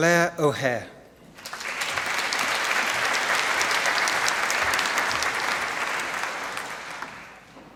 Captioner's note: applause